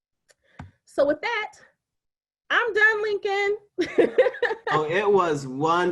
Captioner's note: laughing